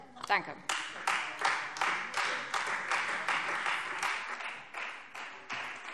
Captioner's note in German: Beifall Freie Demokraten